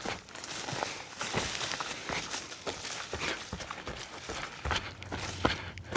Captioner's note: footsteps crunching